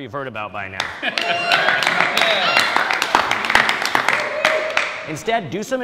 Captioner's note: audience cheering and clapping